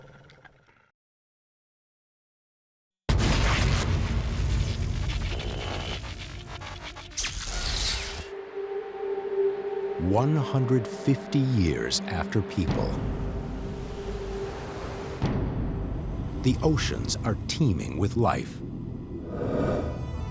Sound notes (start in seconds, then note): 0.2 growls; 6.3 buzzing and crackling